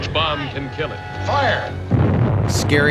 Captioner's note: bomb exploding